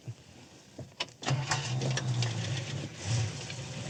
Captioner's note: engine turns over